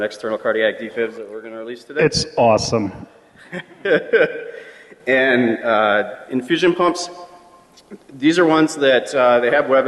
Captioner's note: laughter